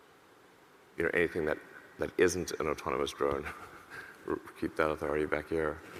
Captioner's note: chuckles